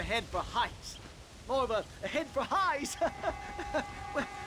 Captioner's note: laugh